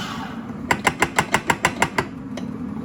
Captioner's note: tapping to knock grounds out of the grinder